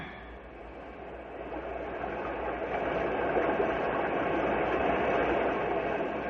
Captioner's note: wind blowing